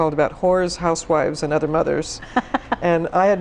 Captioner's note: laughs